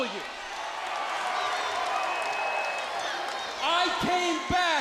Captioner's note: crowd cheering